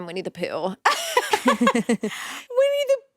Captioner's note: both laughing